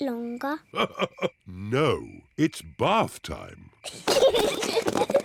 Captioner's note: laughs; peppa and george giggle